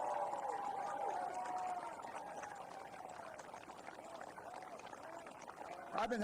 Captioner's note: applause